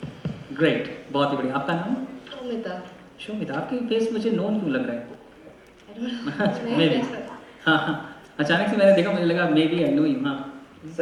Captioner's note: chattering with participants